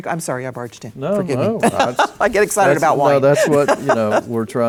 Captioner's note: laughing